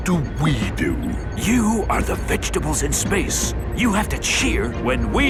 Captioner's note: whispering